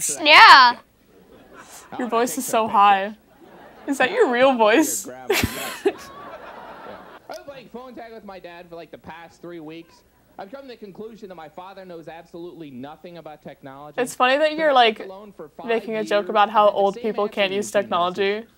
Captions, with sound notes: Yeah. Your voice is so high is that your real voice? *Laughing* it's funny that you're like making a joke about how old people can't use technology